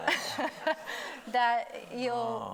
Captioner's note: laughs; everybody laughing